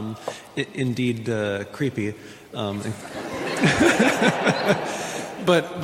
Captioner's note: audience laughing